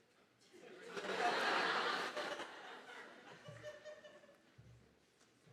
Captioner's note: audience laughing